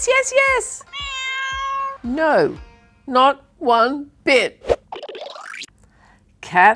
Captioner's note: cat meows